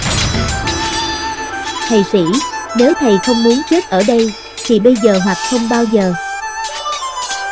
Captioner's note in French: en Viêtnamien